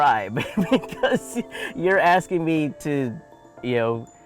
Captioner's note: laughs